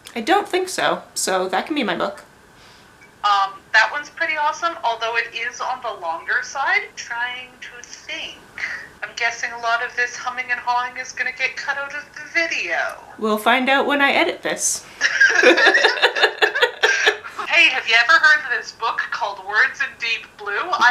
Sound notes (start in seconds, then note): 15.0 both laugh